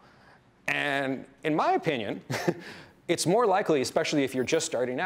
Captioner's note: chuckles